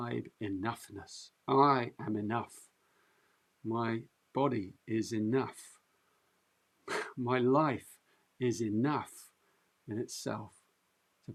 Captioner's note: chuckles